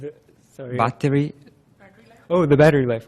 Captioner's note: voiceover